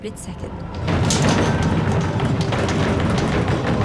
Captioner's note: thunderous banging sound